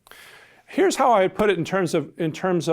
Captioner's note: voiceover